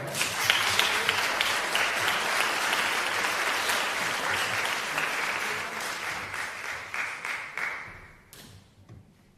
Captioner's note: applause